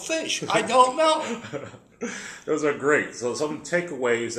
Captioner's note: laugh